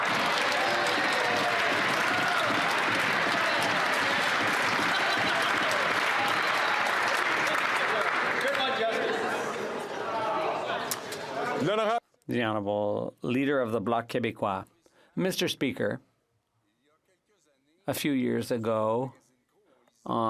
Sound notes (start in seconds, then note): 6.5 some Applause